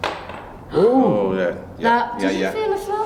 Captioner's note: all exclaiming; clattering